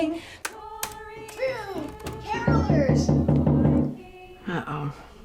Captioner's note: knocking on door